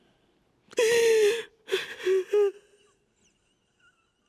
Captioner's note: gasps